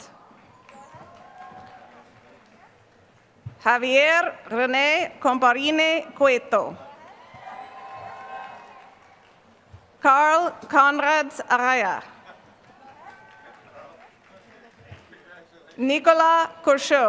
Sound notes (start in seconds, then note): 0.2 applause